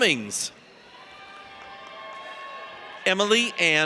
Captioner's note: audience cheers